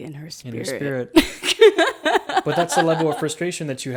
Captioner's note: laughs